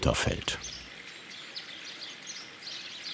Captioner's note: birds chirping